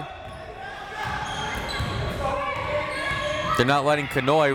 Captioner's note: crowd members shouting